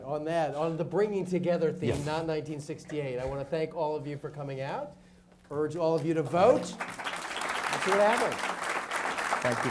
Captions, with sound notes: - On that, on the bringing together theme, not 1968, I want to thank all of you for coming out, urge all of you to vote (audience applauds) and see what happens.